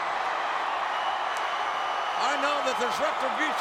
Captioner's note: crowd cheering